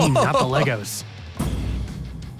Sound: laughs

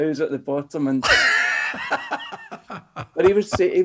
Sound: laughing

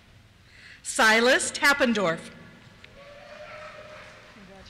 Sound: cheers

